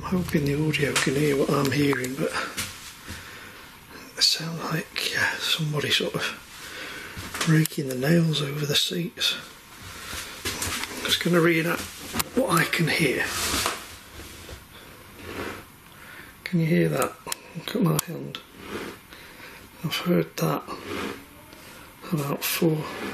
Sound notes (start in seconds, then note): 15.2 nails raking over seat fabric